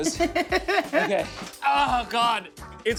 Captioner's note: laughs